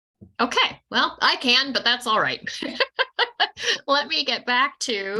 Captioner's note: laughing